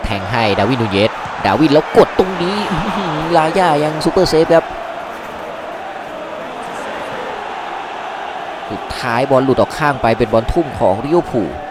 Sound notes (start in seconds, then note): 6.7 applause